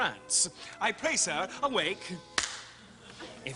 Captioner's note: claps his hands